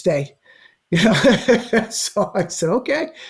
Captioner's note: laughs